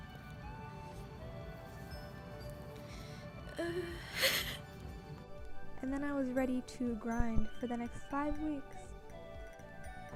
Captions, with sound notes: (noise of discomfort) (laughs) And then I was ready to grind for the next five weeks.